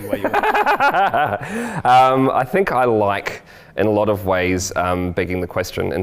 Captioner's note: laughs